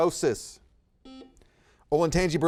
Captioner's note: buzzer beeping